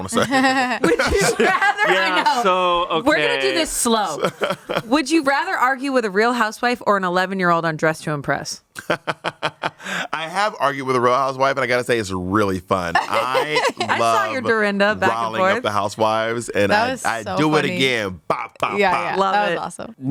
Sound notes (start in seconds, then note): 0.1 everyone laughs; 8.8 Bob laughs